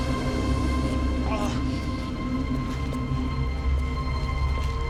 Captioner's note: grunting